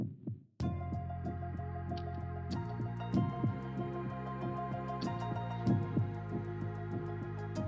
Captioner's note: heart beating